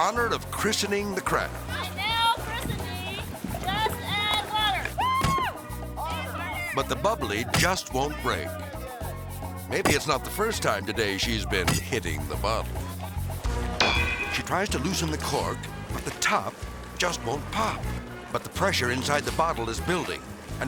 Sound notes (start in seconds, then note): 4.2 onlooker cheers; 13.4 lively upbeat music; 13.7 impact clangs